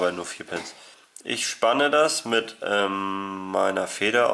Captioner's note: cough